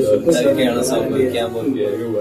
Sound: murmurs

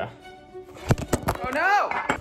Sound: clattering

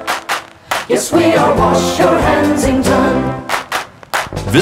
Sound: clap clap; clap clap

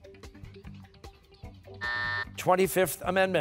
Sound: buzzer

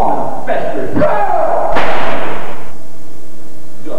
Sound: gunshot

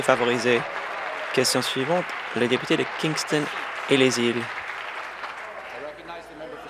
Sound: applause; cheers

